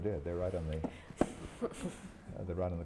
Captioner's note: laughter